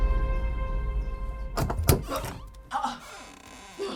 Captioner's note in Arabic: يفتح الباب